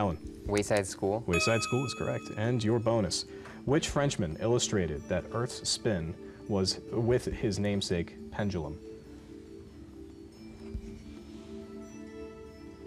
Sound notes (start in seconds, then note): none